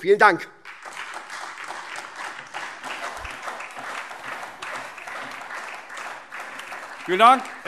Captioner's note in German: Anhaltender Beifall SPD und DIE LINKE